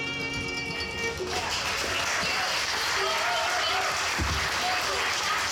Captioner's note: audience cheering